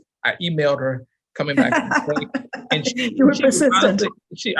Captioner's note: laughing